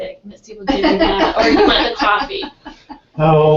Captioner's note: laugh